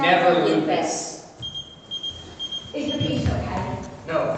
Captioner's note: pager beeps